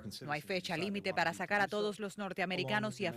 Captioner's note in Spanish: habla en ingés